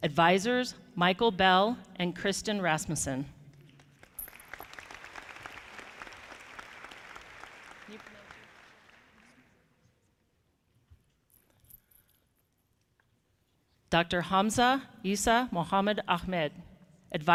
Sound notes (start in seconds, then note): 3.7 audience clapping